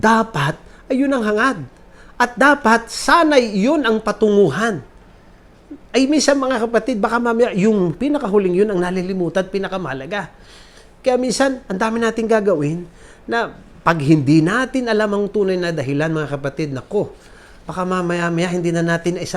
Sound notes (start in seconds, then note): none